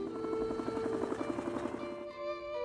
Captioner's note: helicopter whirring